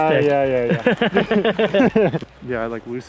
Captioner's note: laughs